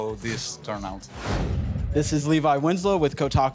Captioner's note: whooshing